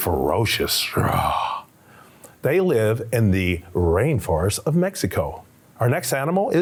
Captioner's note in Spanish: ruge